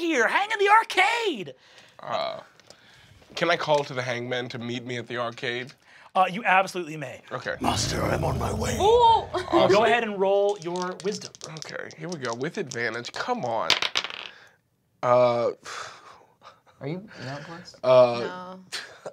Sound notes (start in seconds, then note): 13.6 dice clatters